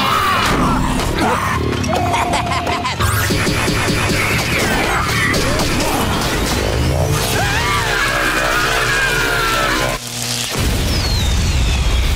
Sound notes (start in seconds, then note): 1.8 laughing; 7.1 screaming